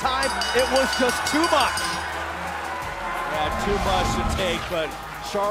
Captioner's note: bell